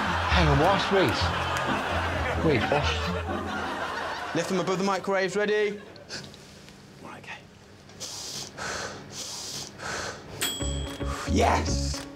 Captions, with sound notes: Hang on, what, wait. Wait, what? Lift them above the microwaves, ready. Right okay. -[heavy breathing] -[microwave dings] Yes.